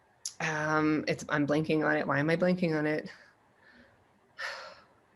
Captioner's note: sighs